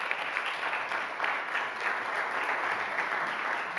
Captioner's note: applause